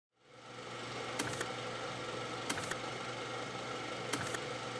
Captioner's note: film reel spinning